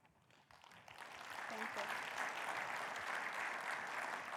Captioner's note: crowd applauds